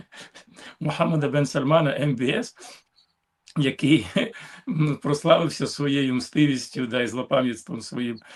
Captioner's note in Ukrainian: сміх; сопіння